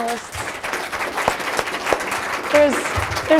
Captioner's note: applause